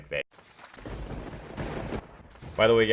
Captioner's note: thunder rumbling